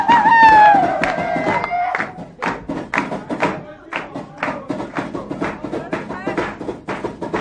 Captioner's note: drums banging; hands clapping